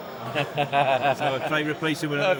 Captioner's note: laughing